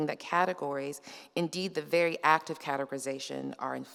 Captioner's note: none